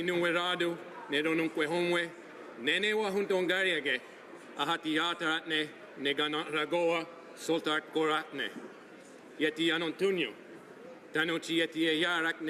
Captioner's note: speaking native language